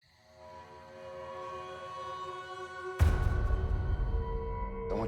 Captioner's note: crickets chirping